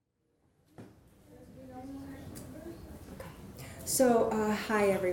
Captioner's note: murmurs